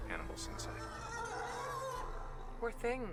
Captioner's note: animals screaming